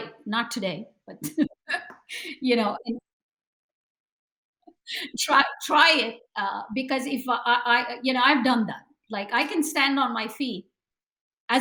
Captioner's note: laughs